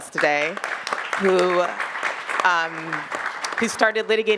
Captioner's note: attendees clapping